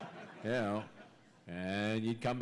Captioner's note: laughter